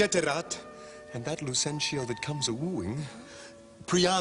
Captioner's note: Sottovoce